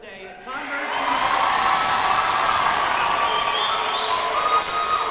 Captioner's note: audience cheers